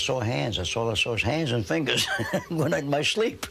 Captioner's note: chuckling